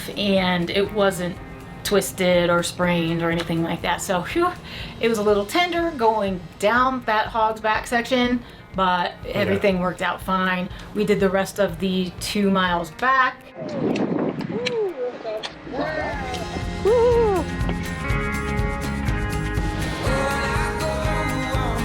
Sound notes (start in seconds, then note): 13.8 cheering; 16.1 pop music